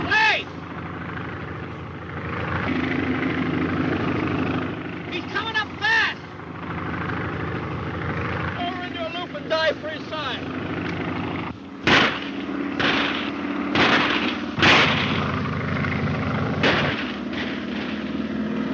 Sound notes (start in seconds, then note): 2.3 airplane motor whirring; 11.8 gun fires; 16.6 gun fires